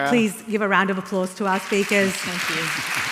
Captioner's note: applause